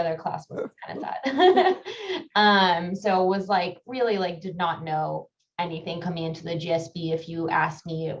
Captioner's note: laugh